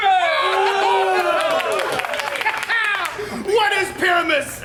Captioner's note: actors cheer; Bottom laughs